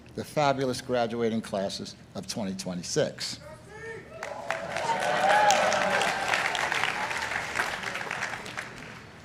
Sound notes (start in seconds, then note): 4.2 audience applauding